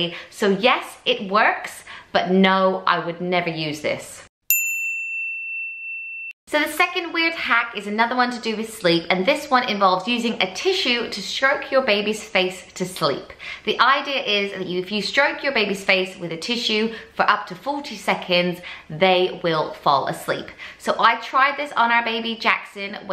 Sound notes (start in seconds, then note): 4.5 bell dinging